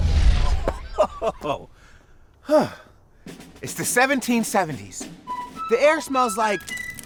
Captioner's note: laughing